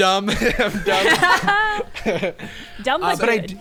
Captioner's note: players laughing